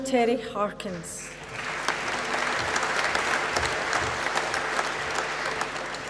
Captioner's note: applause